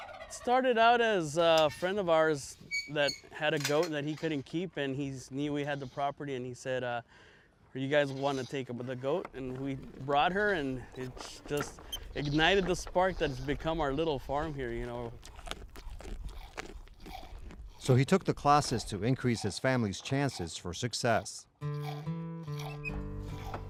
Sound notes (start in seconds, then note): 15.6 crunching